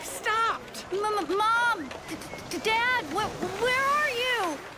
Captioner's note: crowd chatter